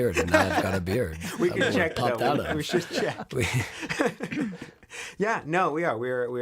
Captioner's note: laughs